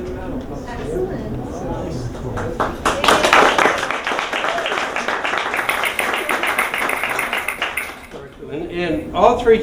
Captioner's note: applause